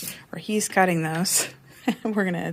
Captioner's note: chuckles